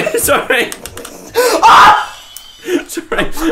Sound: screams

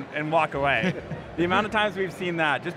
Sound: laughs

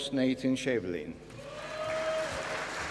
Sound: applause

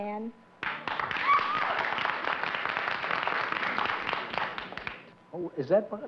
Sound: applause

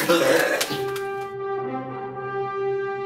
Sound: growls; closing music

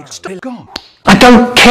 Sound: smacc

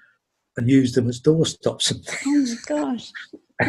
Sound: laughs

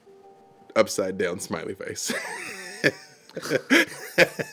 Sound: laughs

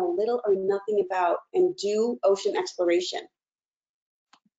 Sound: none

